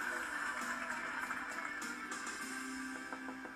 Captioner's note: pounding on door